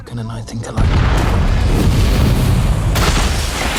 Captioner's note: explosion